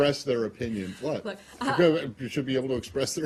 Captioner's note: laughter